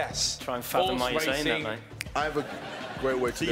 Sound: chattering; laughing

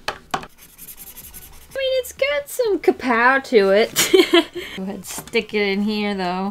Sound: laughs

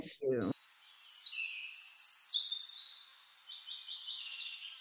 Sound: birds chirping

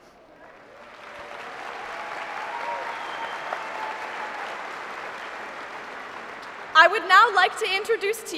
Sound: applause

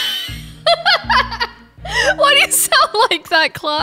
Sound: laughs

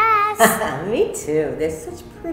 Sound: Mrs. Bright laughs

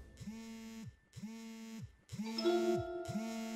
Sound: mobile Phone Buzz

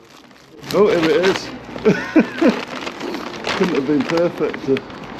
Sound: laughing

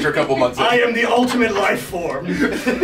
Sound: laugh

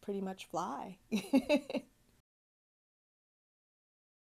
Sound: laughing

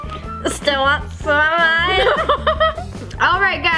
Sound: chuckles

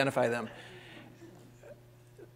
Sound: laughter

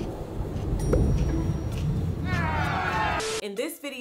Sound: upbeat quirky music; food crunching

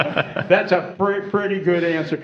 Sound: laughter

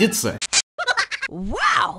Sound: rat laughing

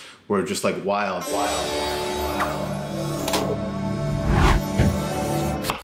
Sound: echoing; intense music

